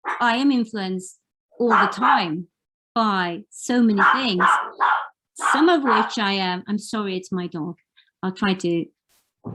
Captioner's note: background barking